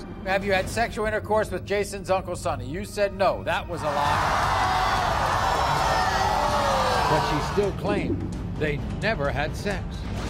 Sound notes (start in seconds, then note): 3.8 audience boos